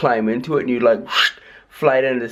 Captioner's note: woosh sounds